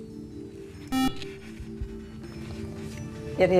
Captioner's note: beeping